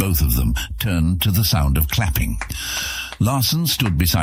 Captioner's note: clapping